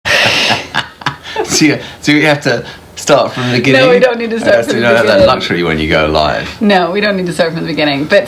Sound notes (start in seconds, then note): 0.1 laughs